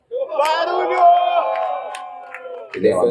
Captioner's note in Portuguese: barulho da plateia ao fundo